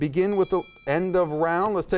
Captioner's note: timer dings